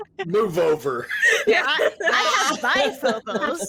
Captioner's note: cast members laughing